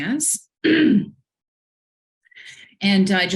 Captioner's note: throat clearing